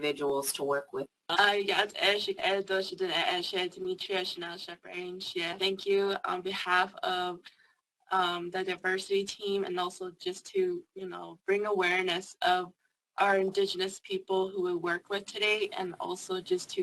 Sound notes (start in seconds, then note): 1.9 speaking indigenous language